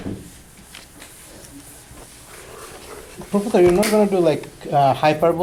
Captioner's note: voiceover